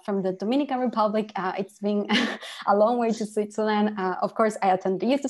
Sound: laughter

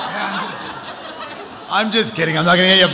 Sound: audience laughing

